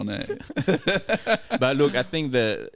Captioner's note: laughing